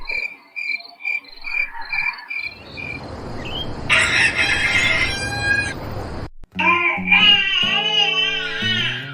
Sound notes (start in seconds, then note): 3.6 rooster crows; 6.6 baby blabbing